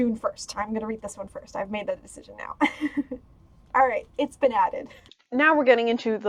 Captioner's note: laugh